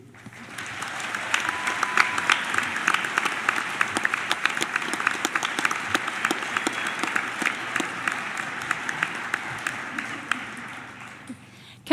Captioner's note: applause